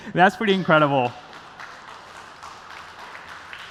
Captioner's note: applause